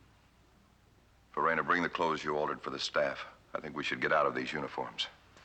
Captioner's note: none